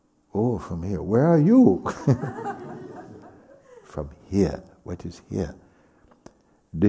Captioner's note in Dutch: lacht